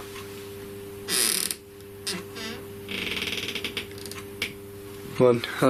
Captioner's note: door creaking loudly